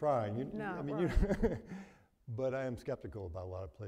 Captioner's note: chuckles